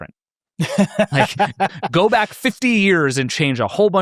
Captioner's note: laughs